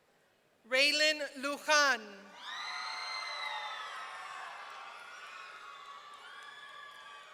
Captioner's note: audience cheering